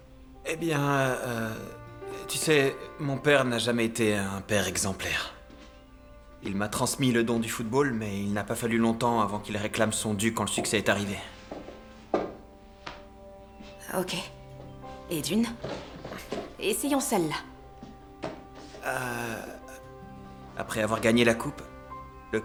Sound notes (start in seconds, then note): 18.2 sighs